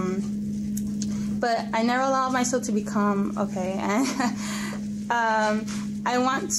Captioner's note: laughs